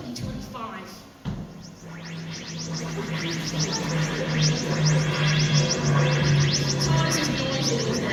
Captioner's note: TARDIS sound effects